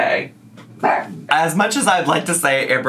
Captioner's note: Po barks